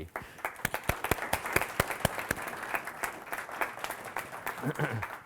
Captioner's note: audience applauding